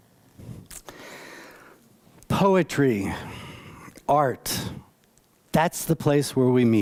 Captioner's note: none